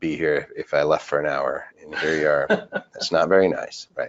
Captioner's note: person laughing